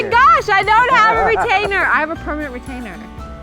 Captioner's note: laughs